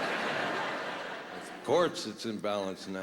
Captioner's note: laughter